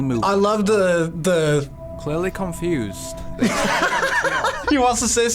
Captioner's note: laughs